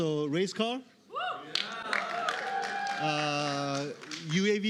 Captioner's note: cheering